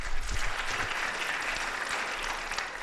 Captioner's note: applause